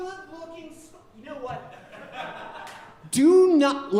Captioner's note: audience laughing